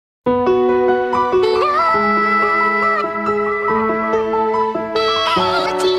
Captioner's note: distorted vocalizing; upbeat electronic music